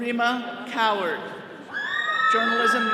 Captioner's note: all cheering